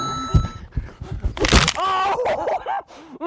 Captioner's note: painful Screaming; bone Crunching